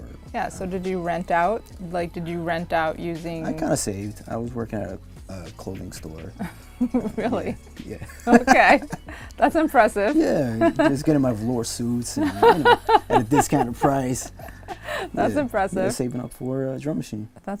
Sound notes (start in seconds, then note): 8.0 laughing; 8.0 laughs; 12.2 laughing